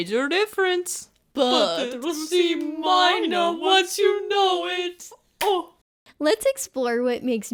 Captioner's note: clap